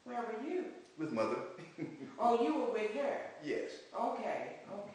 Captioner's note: laughs